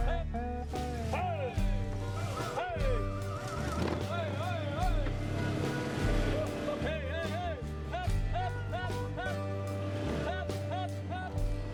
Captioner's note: cowboys yelling